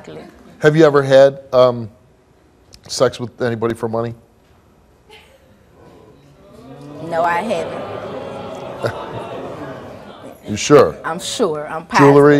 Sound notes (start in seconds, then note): 5.8 audience groaning